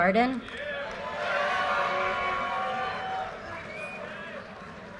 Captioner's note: audience cheers and applause